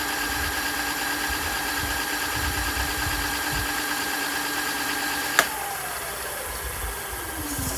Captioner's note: engine revving